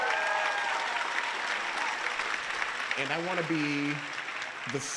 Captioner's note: applause